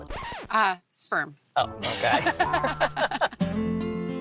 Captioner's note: both laughing